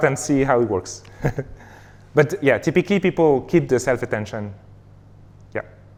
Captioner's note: laughs